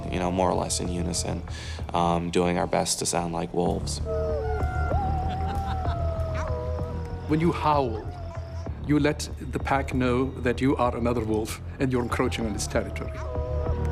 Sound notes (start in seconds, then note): 4.5 laughs; 6.6 howling